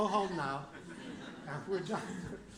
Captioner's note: laughter